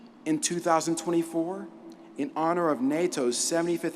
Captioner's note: none